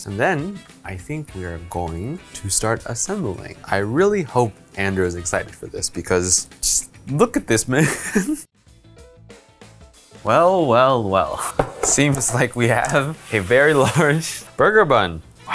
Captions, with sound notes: and then, I think we are going to start assembling. I really hope Andrew is excited for this because, just look at this man. (chuckles) (soft upbeat music) Well, well, well, it seems like we have a very large burger bun.